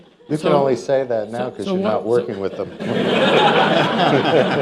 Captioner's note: laughter